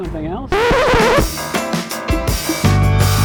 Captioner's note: record scratch; sexy music playing